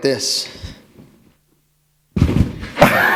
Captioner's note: laughter